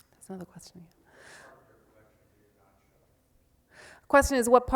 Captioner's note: voiceover